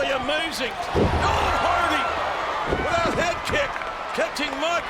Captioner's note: audience cheering